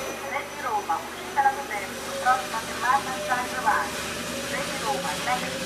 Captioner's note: automated announcment